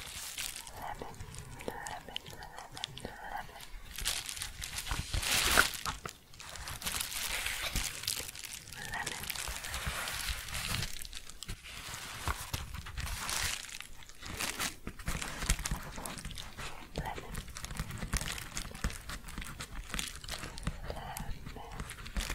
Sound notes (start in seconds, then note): 4.0 louder crinkling; 9.6 shuffling and crinkling; 17.7 crinkly tapping; 22.1 shuffling and crinkling